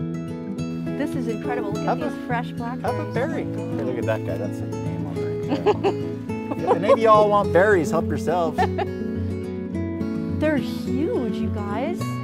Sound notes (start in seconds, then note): 5.4 laughs; 12.0 gentle guitar music